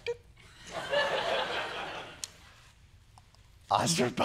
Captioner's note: laughter